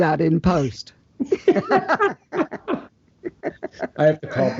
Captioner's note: both laugh